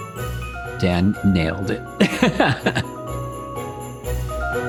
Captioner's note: laughing